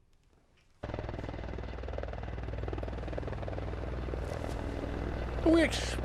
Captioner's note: helicopter engine rumbling